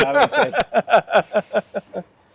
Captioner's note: laugh